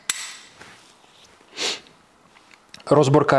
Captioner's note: sniff